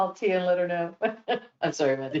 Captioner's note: laughter